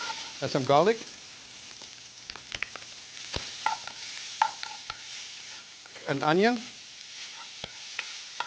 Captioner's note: sizzling; stirring